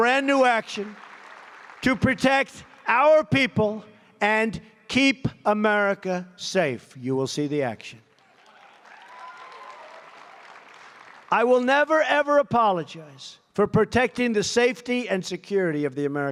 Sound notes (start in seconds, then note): 8.0 applause